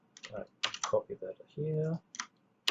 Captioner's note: keyboard clicks